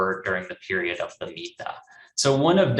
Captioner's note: speaks in foreign language